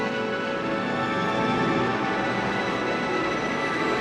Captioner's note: none